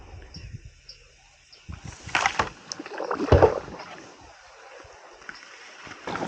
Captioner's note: bird chirping & paddling